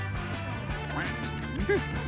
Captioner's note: sniffing